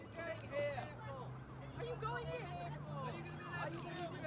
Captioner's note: reporters chattering